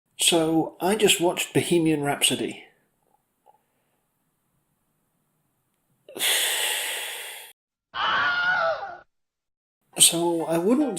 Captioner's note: exasperated sounds